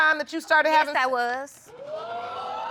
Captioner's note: audience exclaiming